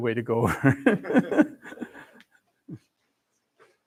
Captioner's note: laughs